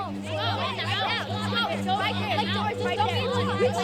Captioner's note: kids taunting